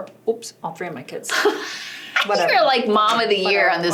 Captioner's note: laughing